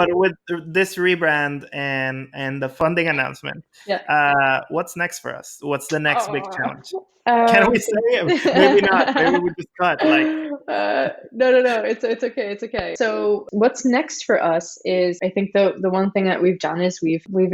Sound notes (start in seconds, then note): 0.0 laughing; 0.0 laughs; 7.1 cat groaning